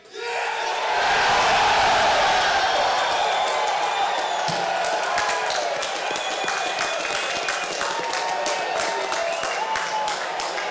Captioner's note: cheers and applause